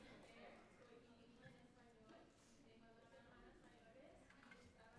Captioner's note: speaking in Spanish